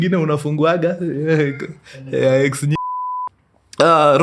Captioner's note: beep